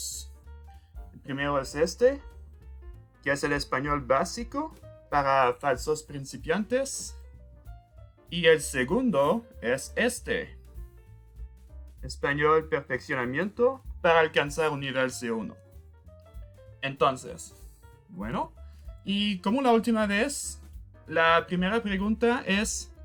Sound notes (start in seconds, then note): 11.5 using Spanish